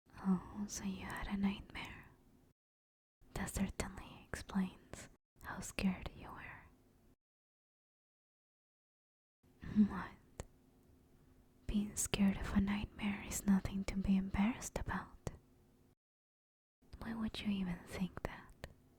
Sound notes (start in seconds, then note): none